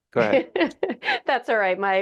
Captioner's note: laughing